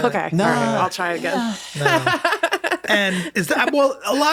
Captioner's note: laughs